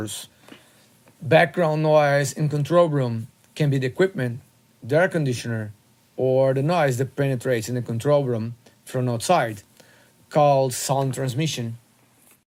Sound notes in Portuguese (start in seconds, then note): 10.2 transmissão sonora